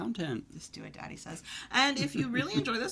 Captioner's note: laughs